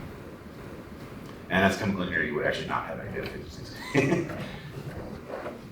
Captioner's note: laughter